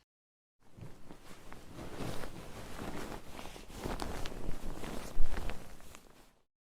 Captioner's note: sound of cushions